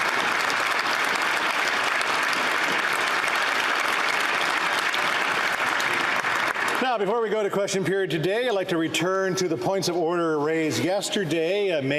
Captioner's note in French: applaudissements